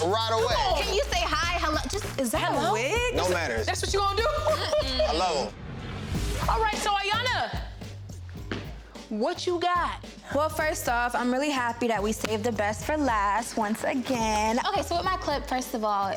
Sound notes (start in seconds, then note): 4.5 Iyana hums; 6.6 upbeat music